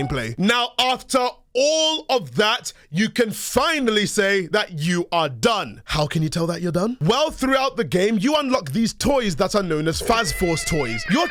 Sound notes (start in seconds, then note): none